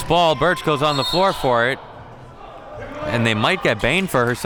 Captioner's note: whistle blows